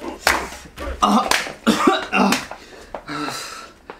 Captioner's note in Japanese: 師の苦しそうな咳